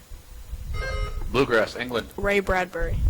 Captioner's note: buzzer chimes